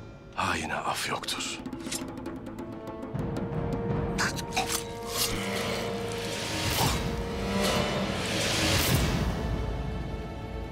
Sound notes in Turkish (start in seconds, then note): 4.2 Hançer sesi; 6.7 Nefes sesi; 9.1 Müzik - Gerilim